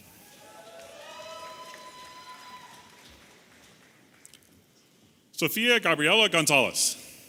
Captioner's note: audience applauding and cheering